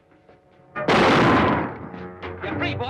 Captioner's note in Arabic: صوت طلقات نارية